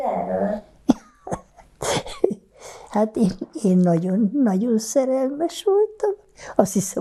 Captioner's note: laughing